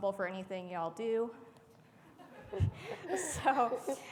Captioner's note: audience laughing